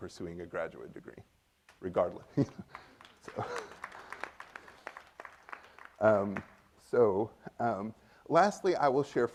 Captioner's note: applause from the audience; laughs